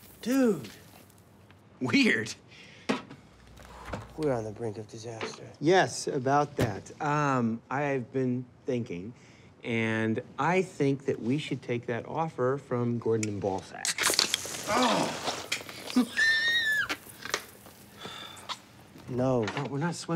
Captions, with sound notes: Dude. Weird. We're on the brink of disaster. Yes. About that. Um, I've been thinking and I think that we should take that offer from Gordon and Ballsack. (drink spurting) Oh! (Donnie laughs) No.